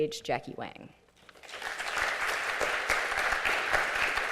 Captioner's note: applause